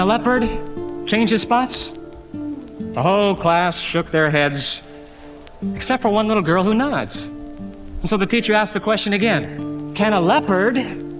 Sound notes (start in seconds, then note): none